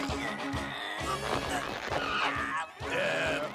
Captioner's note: straining grunts